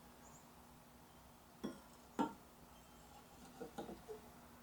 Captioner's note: ball hitting bowl